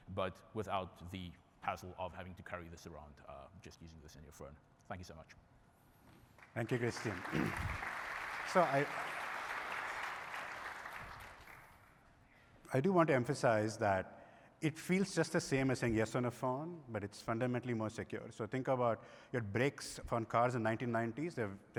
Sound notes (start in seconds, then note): 7.8 applause